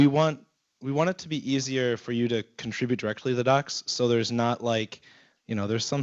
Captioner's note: none